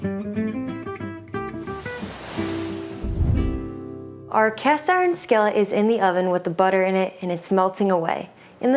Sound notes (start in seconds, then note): 1.5 graphic whooshes